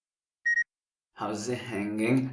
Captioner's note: beep